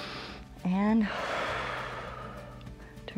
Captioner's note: exhales; inhales